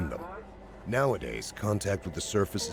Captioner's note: voiceover